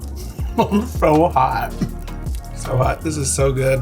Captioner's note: laughs